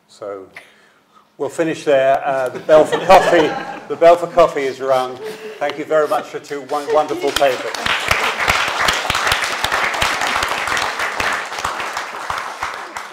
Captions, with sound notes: So we'll finish there, the Belfor coffee... (audience laughing) the Belfor coffee is around, thank you very much for two wonderful papers. (audience applauding)